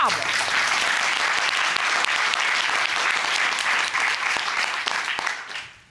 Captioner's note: applause